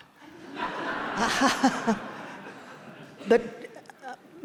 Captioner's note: audience laughing